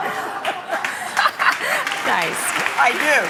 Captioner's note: applause